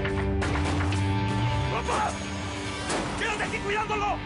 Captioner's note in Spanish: Disparos